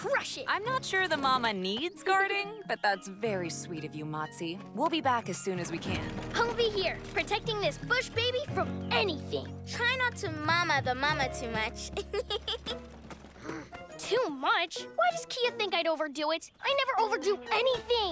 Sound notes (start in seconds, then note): 11.9 giggles